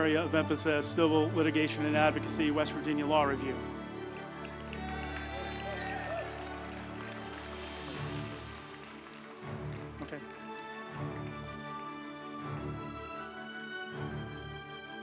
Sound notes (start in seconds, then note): 4.0 group applauding; 4.6 uplifting music